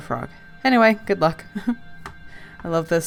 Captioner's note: laughs